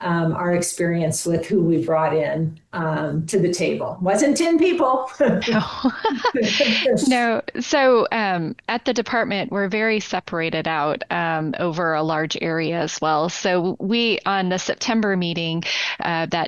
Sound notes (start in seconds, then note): 5.4 laughter